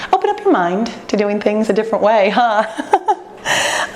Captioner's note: laughs